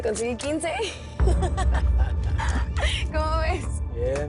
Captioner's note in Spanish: Risas